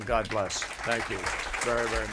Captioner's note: applause